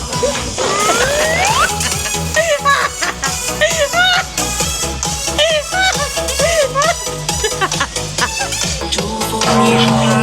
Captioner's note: laughter